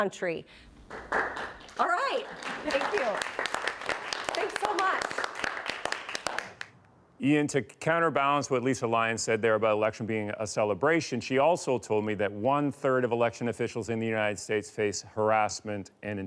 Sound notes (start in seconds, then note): 5.3 applause